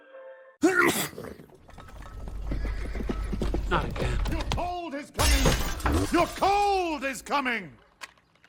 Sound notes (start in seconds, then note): 0.6 sneeze; 3.2 hooves approaching